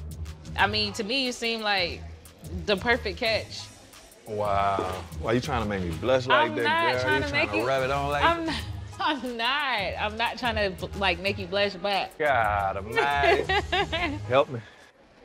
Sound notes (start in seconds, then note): 8.6 laughing; 12.9 chuckles